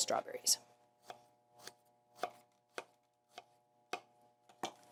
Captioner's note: knife thudding